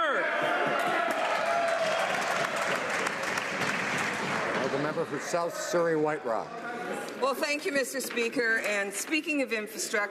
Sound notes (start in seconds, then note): 3.8 some Applause